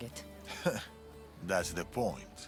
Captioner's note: laugh